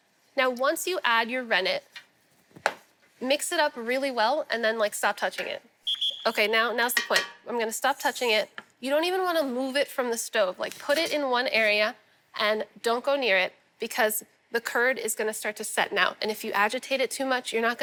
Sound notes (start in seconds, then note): 5.8 whistle blows